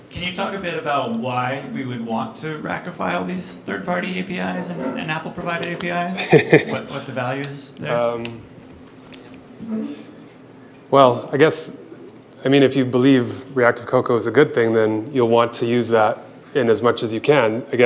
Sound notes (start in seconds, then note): 6.1 chuckles